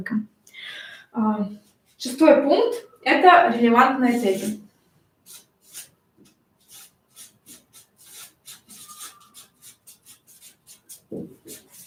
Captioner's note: скрежет маркера